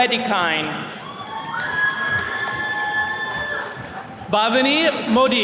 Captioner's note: attendees cheering